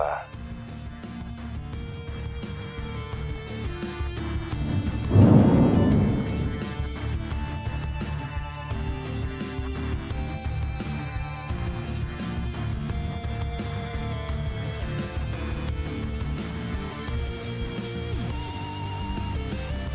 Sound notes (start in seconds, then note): 4.6 thunder Clap; 6.4 theme plays